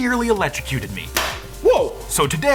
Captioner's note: electronics popping